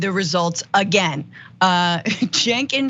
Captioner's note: laugh